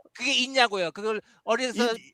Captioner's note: non-english speech